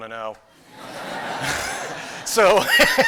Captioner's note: laughter